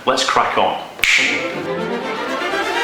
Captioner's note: click